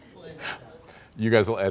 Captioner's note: laughs